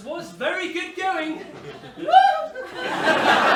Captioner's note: mrs hardcastle wails